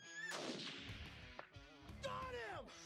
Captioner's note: gunshot